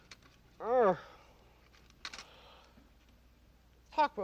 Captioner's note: grunts